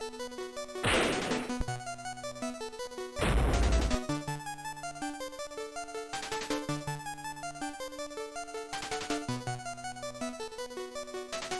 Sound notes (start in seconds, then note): 3.2 thud